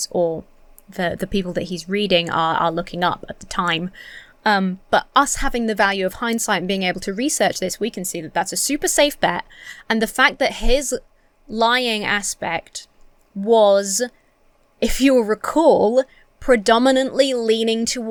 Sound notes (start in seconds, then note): none